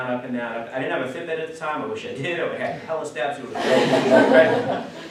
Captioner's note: class laughs